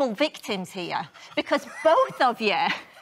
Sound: laughter

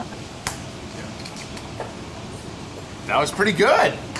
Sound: egg cracks

